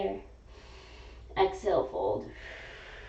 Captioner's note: exhaling; inhaling